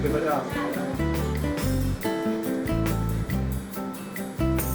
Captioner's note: speaking Italian